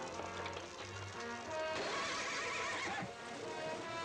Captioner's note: horse neighs